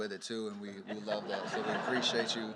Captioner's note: laughter